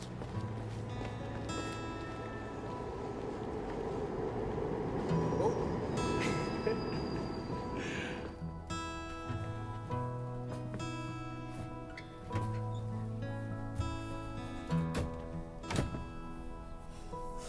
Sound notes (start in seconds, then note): 6.0 laughs